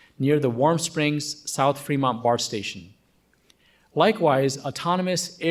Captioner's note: none